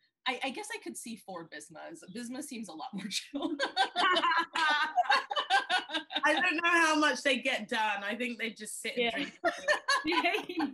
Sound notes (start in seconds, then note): 3.4 laughing; 9.1 laughing